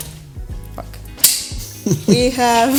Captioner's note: laughter